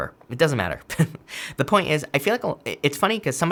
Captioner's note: chuckles